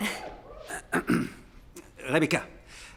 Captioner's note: crowd; clears throat